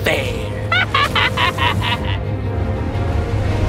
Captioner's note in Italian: risata malvagia